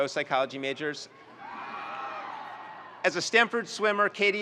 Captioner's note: students cheering